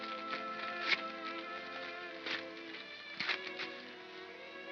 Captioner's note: paper tears; soft melancholy music